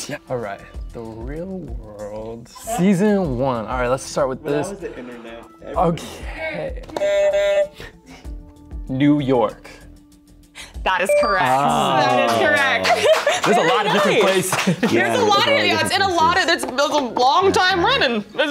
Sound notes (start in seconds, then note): 6.9 buzzer sounds; 12.0 groans